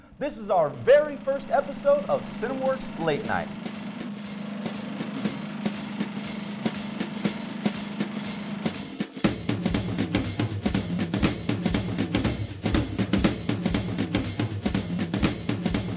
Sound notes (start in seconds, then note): 4.2 projector running; 4.2 upbeat music